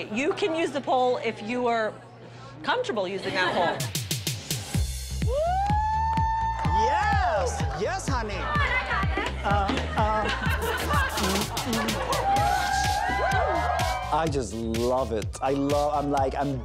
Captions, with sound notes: You can use the pole if you are comfortable using that pole. [upbeat music] [cheering] - Yes, yes, honey! [laughter] [cheering] I just love it. I love it, I'm like--